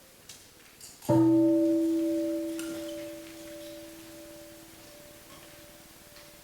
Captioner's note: bell rings